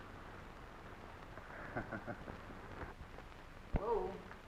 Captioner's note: laughing